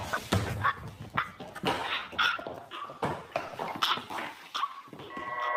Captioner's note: someone choking